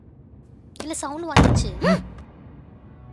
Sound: thud; both gasping

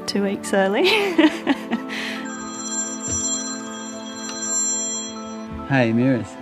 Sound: phone rings

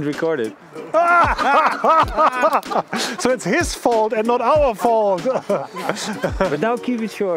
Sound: laughing

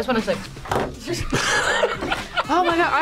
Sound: laughs

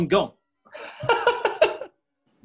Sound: laughing

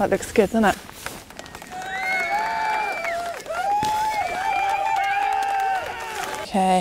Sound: cheering & clapping

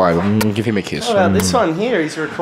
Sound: audible kiss

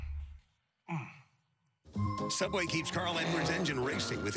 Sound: comical crashing/ body thumping/groaning sounds

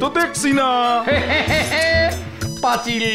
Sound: laughs

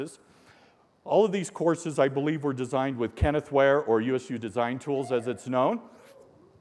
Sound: holler

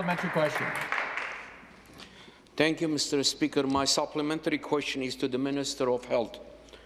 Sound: some Applause

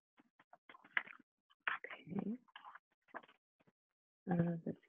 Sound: pages shuffling

